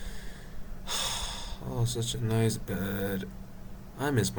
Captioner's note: sighs